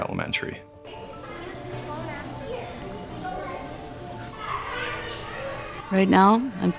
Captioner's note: students talking and laughing in the background